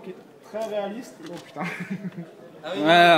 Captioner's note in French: rire